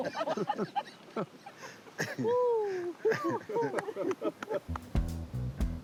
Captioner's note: all laughing